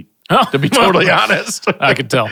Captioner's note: chuckles